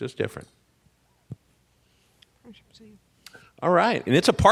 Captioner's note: mumbles